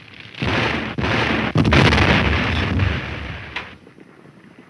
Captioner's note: fire crackling; explosion booms